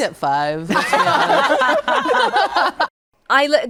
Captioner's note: guests laugh